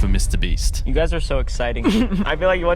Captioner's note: chuckling